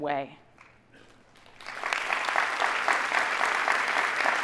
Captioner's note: audience applauding